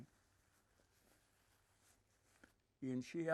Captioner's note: wiping nose